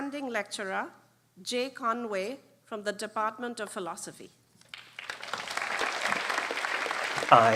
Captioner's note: applause